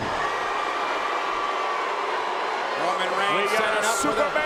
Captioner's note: crowd booing